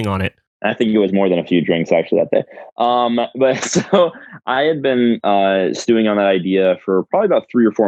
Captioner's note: laughs